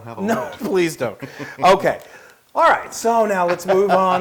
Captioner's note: laugh